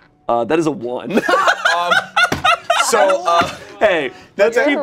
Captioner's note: everyone laughs